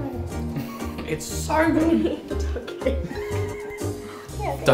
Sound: chuckle

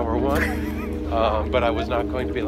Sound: laughs

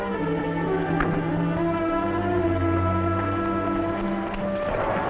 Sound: metallic thudding

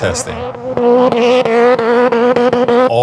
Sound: engine revving

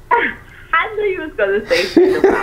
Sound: laughing

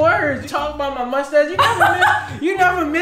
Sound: laughs

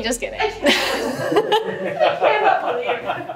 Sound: all laugh

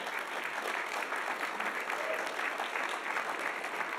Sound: audience applauding

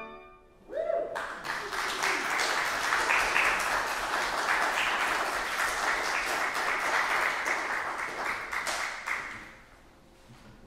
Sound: applause

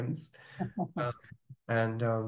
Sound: laughing

